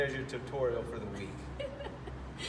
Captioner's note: laughs